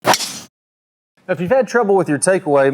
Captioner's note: golf club swishing